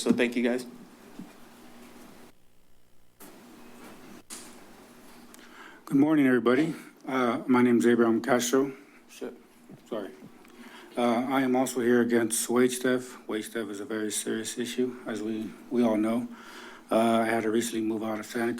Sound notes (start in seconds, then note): 3.0 pause